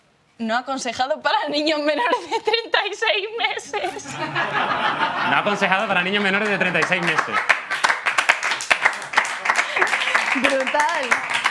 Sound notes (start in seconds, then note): 3.7 laughter; 7.7 applause